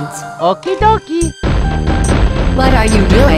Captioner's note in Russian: бам-бам-бам